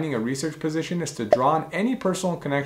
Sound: bubble popping

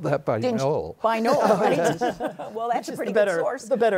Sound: laughter

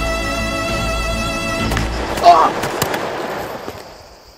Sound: gunshots

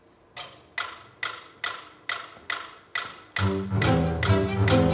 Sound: metronome ticking

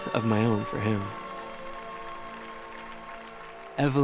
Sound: audience clapping

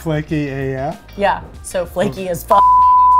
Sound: loud beep

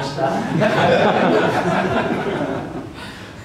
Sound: laughter

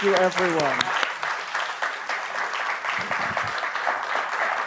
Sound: audience applaud

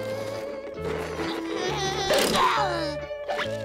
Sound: grunting

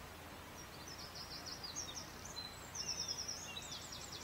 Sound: more bird song; even more bird song

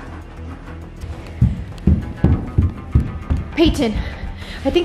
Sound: footsteps

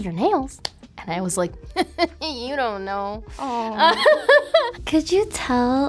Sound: giggles

